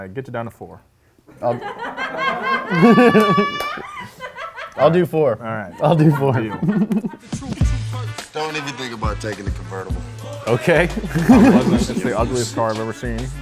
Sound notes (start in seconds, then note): 1.7 woman laughs loudly; 10.2 laughs